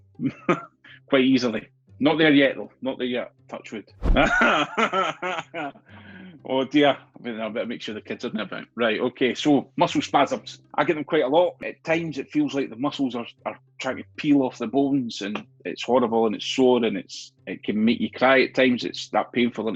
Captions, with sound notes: [laughs] quite easily. Not there yet though, not there yet. touch wood. [laughs] Oh, dear. I better now make sure the kids aren't around. Okay. Muscle spasms. I get them quite a lot. At times, it feels like the muscles are trying to peel off the bones. It's horrible and it's sore. It can make you cry at times. It's that painful.